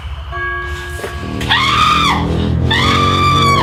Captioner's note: screaming in fear